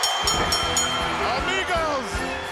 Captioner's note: bell ringing